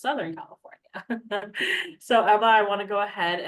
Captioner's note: laughing